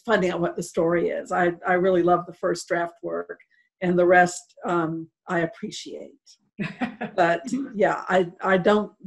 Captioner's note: laughter